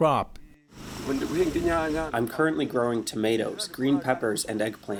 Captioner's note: through translator